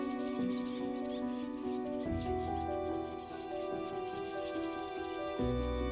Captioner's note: birds chirping